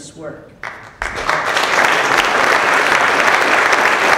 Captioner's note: applause